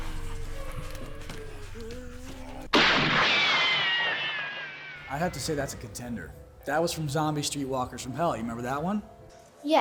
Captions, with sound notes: (gunshot pings) - I have to say, that's a contender. That was from "Zombie Street Walkers from Hell." You remember that one?